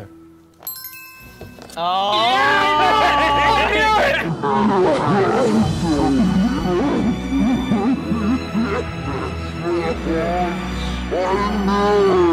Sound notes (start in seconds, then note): 0.6 bell dinging; 2.4 laughing; 4.8 yelling in slow motion; 6.2 slow sad music